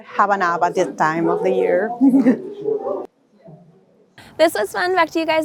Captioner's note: laughs